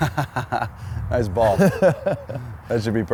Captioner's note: laughs